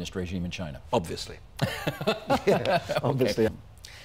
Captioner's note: laughing